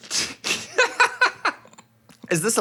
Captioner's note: laughing